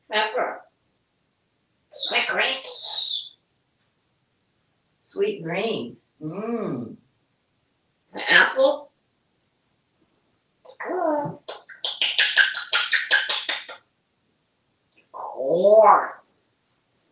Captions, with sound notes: Pepper. Sweet greens. Sweet green, mmmm. Apple. It's good! [smacking sounds] Corrrrn!